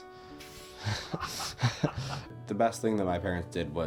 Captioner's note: Rick laughs